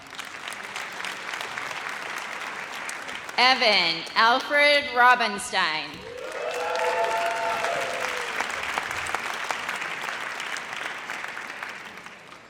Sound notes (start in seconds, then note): 0.0 audience applauds; 6.0 audience cheers